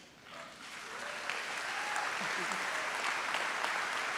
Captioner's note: audience applauds